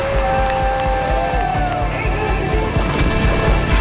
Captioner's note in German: Familie jubelt